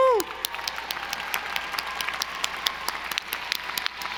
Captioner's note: audience applauding